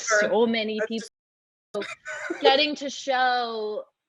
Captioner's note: chuckles